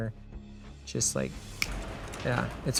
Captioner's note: snaps fingers